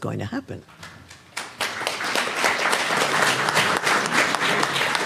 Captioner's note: audience applauds